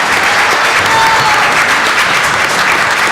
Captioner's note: applause